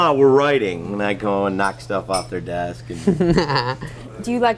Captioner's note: laughs